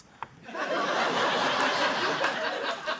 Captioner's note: laughter